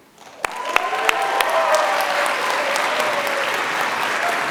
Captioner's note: applause